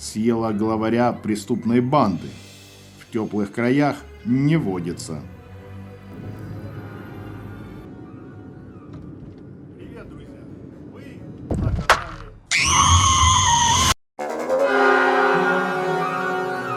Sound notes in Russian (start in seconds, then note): 6.3 звук поезда; 6.3 зловещая музыка; 6.3 крик девочки